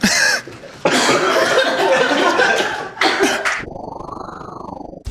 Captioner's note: crew laughing